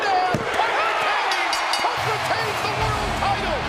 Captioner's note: bell rings